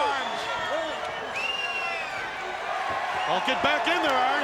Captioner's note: crowd clamoring